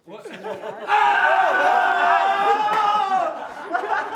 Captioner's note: boys shout celebrating arrival